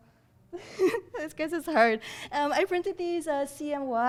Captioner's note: laughs